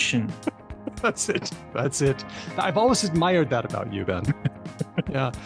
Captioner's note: laughs